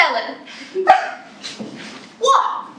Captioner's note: laugh